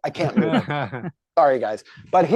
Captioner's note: laughing